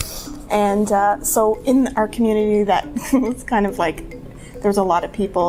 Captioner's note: giggles